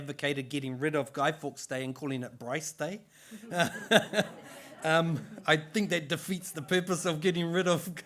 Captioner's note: laughter